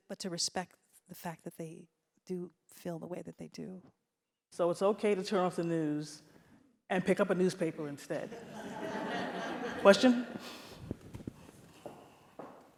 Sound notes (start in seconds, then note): 8.6 audience claps